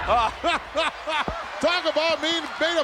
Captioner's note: gorilla laughing